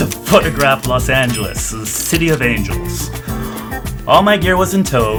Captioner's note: laughs